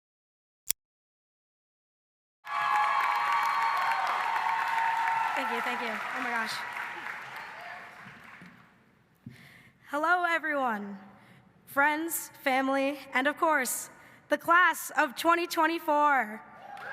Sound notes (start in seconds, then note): 0.5 logo clicking; 2.4 audience cheering and clapping; 16.7 audience cheering and clapping